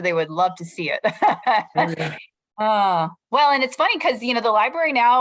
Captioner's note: laughter